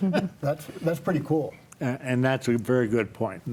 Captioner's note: laughs